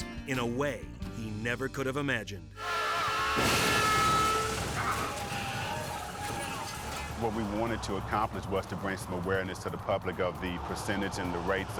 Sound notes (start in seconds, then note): 2.6 horns honking; 2.6 vehicles thudding